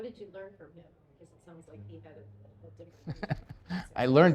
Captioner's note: laughs